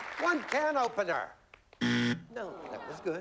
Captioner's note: buzzer